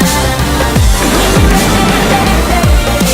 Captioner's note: explosion